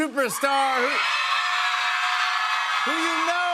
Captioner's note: cheers and applause